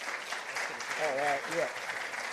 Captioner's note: participants applauding